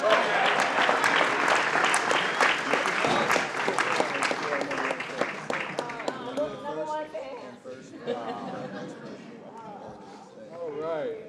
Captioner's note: applause